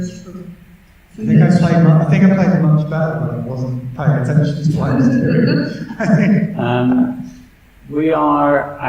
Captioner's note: laughter